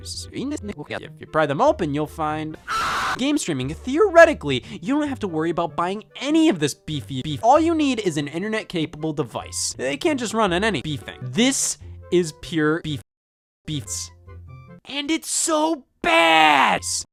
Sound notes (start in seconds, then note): 2.6 screams of horror